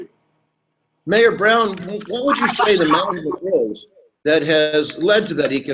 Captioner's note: murmurs